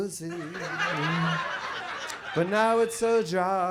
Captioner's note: audience laughs